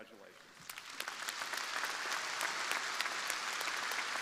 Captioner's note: crowd applauding